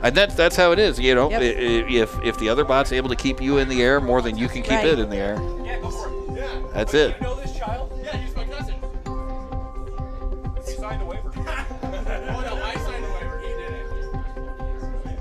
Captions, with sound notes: And that's how it is, you know, if the other bot's able to keep you in the air more than you can keep it in the air. Yeah, before, yeah. That's it. But you know this child? Yeah, he's my cousin. (upbeat music) He signed a waiver. (laughing) Oh, no, my signed a waiver, he did it.